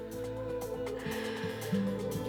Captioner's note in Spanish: ríe y exhala